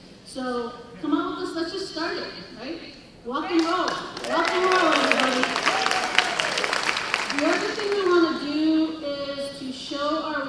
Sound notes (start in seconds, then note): 3.5 applause